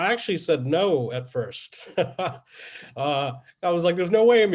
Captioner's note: laughs